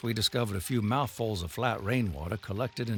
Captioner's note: water gushing